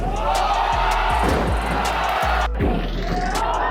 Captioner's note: crowd cheering; thumping